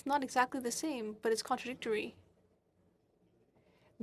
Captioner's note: speaking French